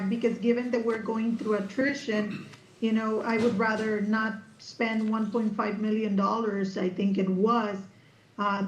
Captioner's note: clears throat